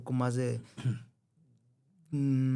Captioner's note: clears throat